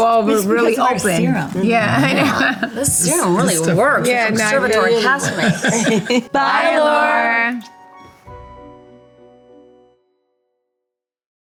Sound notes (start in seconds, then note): 1.8 laughs; 8.1 gentle music